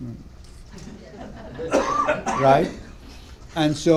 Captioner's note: laughter